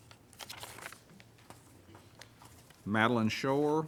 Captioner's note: page turns